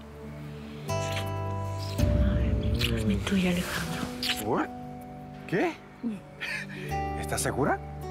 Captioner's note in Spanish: Ruido de besos